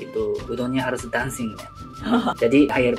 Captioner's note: laughs